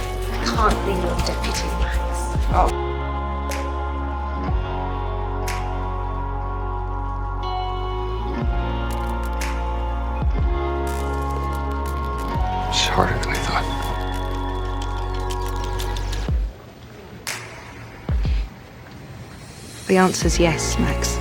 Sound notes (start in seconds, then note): 12.9 voiceover